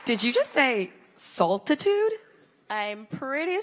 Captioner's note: applause